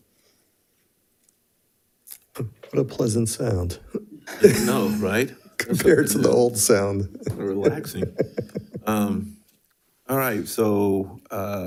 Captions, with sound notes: - What a pleasant sound. - I know, right? - Compared to the old sound. - (speaks faintly) relaxing. - All right, so,